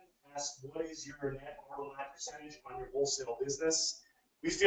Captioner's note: speaking away from microphone